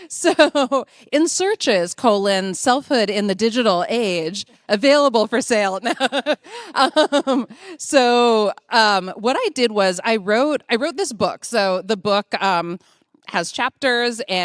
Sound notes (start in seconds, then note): 0.2 laughing; 5.9 laughing